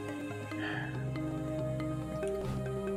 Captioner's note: sighs